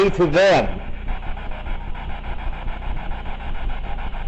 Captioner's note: static buzzing